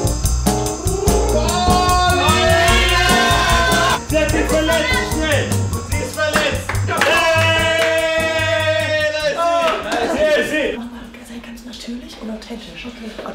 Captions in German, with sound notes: [Jubelschreie] Sie hat sich verletzt, schnell! Sie ist verletzt! [Jubel] Ich sehe sie! Sei ganz natürlich und authentisch. Okay!